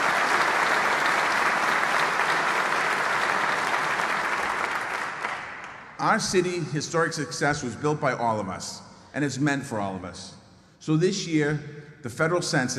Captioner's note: applause